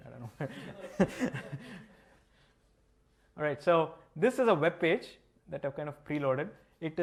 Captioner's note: laughter